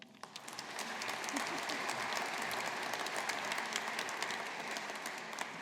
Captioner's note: audience applauding